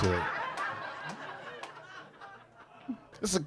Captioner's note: audience laughing